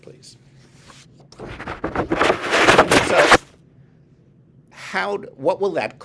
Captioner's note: paper shuffling